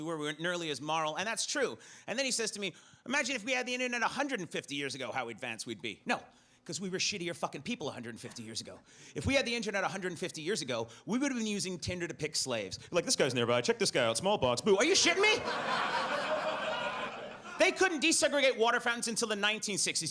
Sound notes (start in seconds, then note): 15.0 audience laughs